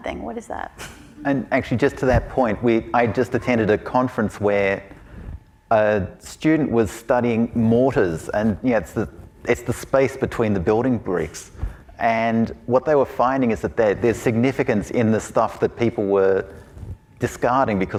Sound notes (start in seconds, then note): 1.3 audience chuckling